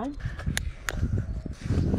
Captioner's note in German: klick